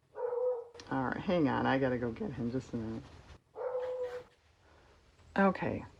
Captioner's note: dog barks